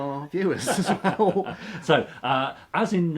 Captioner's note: laughs